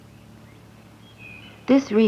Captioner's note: birds chirping